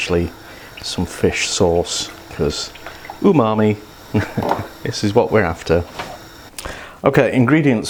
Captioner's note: laughs